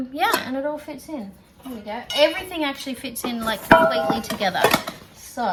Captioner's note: clatter